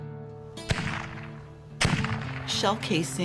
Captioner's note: gun firing